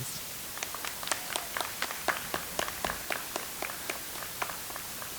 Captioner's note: audience applauds